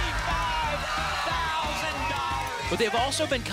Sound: applause and cheering

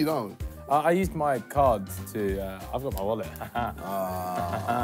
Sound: laughs

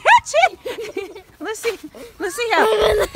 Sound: laughing

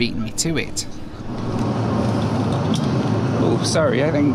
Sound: engine roaring

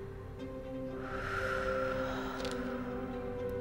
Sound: deep breath; wind blowing; woman breathing

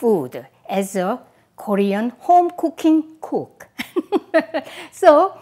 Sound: laughs

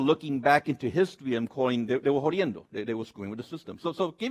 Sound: speaks Spanish

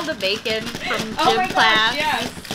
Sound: laughter

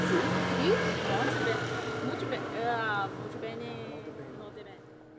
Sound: speaks Italian

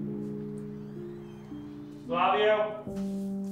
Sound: door creaking

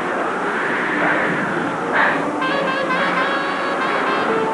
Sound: panting

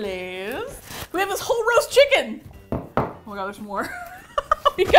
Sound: laughs

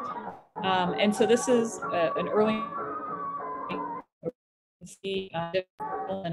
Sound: audio distortion

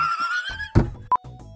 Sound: laughs; thud

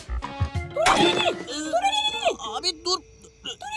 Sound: alien talking

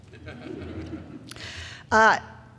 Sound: crowd laughing

